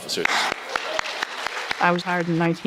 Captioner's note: attendees applauding